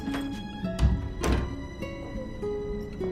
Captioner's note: door closes